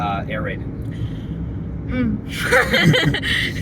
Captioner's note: deep, pained inhale; laughter